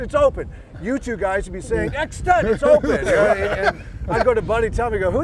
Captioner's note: laughter